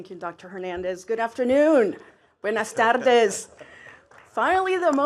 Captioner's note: speaks in foreign language